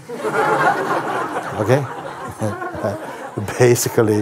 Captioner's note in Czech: smích